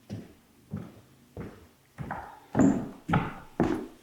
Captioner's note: footsteps tapping